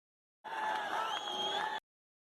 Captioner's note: crowd Cheering